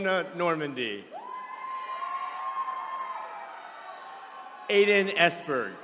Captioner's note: attendees cheering